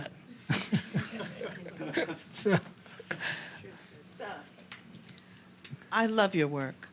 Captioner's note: laughter